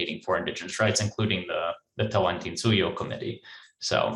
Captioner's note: speaks in foreign language